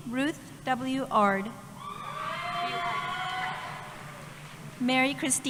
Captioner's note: cheering